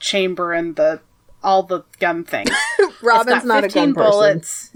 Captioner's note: laughs